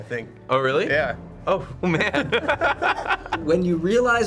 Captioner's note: both laugh